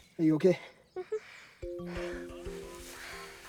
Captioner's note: giggles and nods